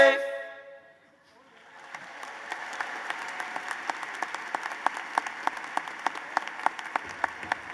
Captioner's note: applause